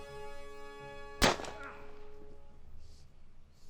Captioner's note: gun fires